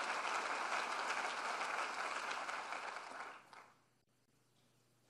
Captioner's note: applause